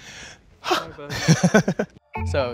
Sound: sighs, then laughs

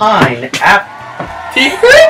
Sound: audience Cheers

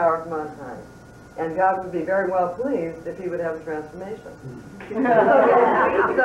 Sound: laughter

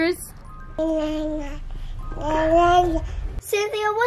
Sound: baby coos

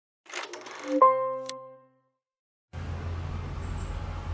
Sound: film projector whirring

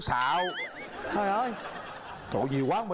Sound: laughing

